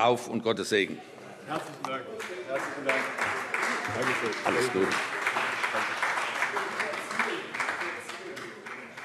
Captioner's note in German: Beifall – Vizepräsident überreicht ein Weinpräsent